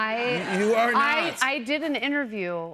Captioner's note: laughter